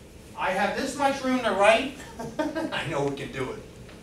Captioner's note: laughing